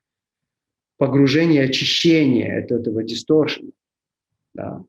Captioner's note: distortion